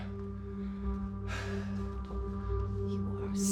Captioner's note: Drew sighs